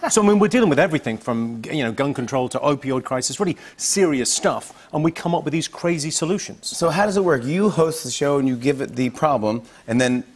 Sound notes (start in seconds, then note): none